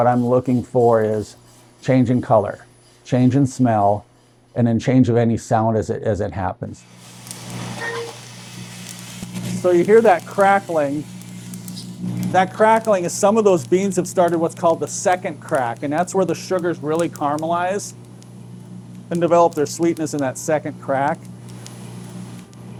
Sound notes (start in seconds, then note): 7.2 soft crackling